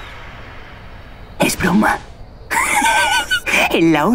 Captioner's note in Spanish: ríe